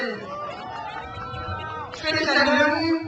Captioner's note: crowd cheers